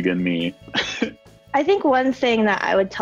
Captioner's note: chuckles